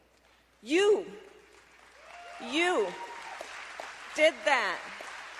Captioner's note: applause